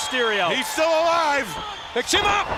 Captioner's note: crowd cheering